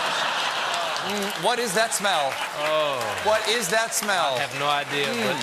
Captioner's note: laughter